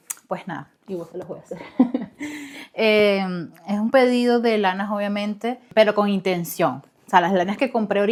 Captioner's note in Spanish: risas